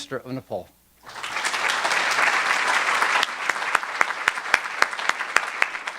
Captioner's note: audience applauding